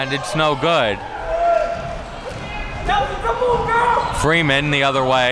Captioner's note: crowd cheering